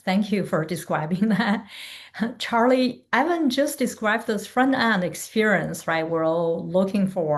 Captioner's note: chuckles